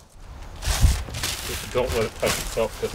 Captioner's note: objects clattering